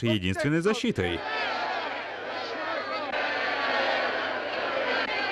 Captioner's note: group shouting yes